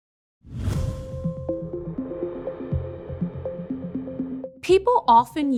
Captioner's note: air whooshing; upbeat music